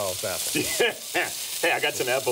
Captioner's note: laughs